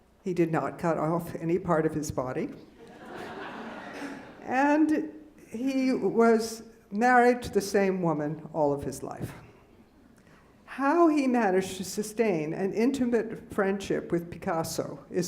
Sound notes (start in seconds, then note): 2.9 laughing